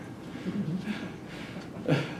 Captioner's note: laughter